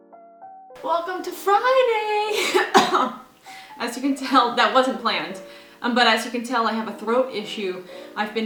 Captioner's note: coughs